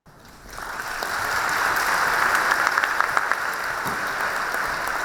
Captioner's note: students applauding